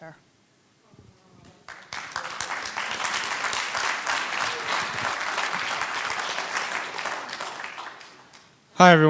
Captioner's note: applause